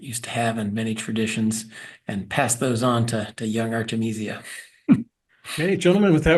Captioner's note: laugh